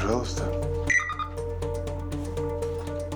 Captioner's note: electronic lock beeps